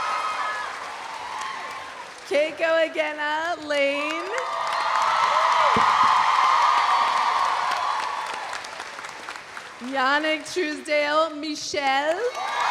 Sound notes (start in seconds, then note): 0.0 audience applauding; 0.0 audience cheering; 4.0 audience applauding; 4.1 audience cheering; 12.3 audience cheering; 12.3 audience applauding